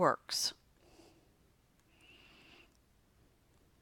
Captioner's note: silence